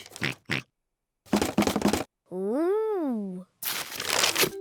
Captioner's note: oinks; rattles